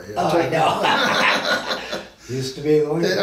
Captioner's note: both men laugh